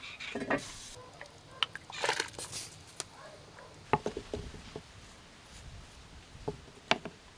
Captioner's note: boiling water